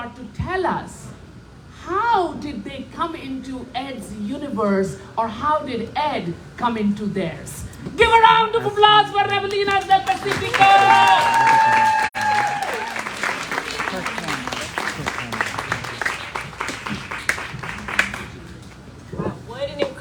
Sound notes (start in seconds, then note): 13.8 applause